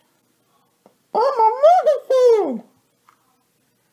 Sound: Elmo voice

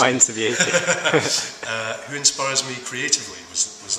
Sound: chuckles; laughs

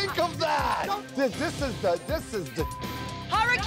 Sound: beep

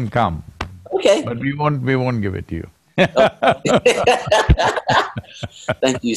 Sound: both laugh

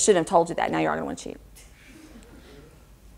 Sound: audience laughter

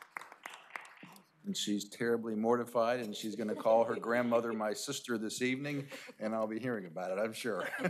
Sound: applause

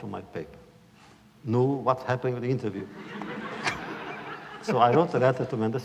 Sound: laughter

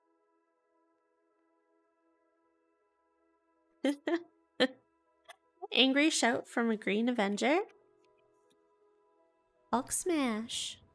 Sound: giggles

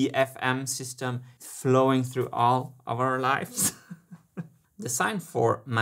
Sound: chuckles

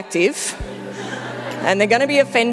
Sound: audience laughing

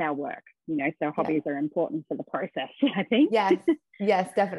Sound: laughs

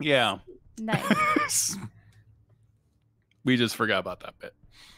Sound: laughs

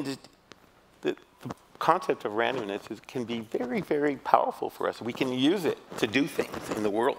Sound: none

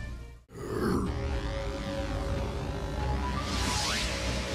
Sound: a final grunt

